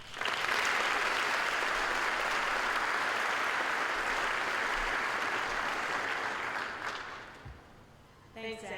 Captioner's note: applause